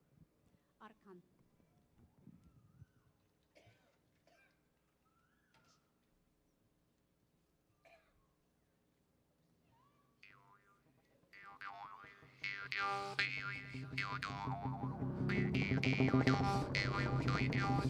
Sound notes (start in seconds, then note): 0.8 speaking foreign language; 12.5 upbeat folk music